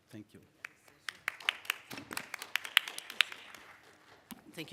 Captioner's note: applause